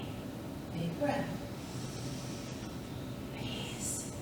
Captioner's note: inhales